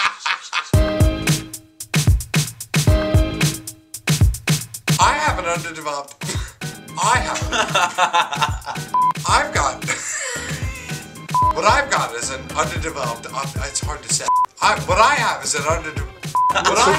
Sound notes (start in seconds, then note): 0.7 bumper music; 7.2 laughs